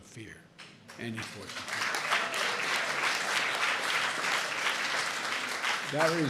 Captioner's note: applause